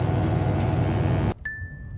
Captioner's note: bell dings; electric buzzing; bell dings